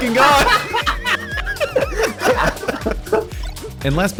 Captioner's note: insane laughter